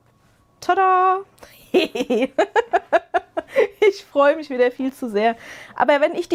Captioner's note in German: gelächter